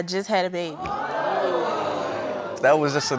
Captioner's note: audience exclaims